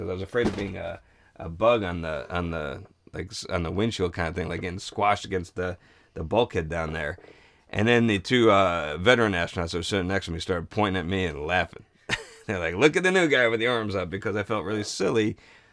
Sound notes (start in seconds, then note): 12.1 chuckles